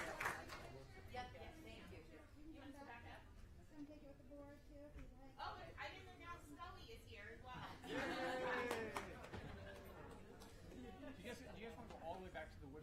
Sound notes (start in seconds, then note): 2.6 applause